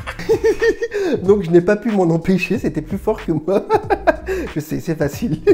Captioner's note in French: rires